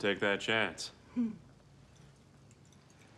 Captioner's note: chuckles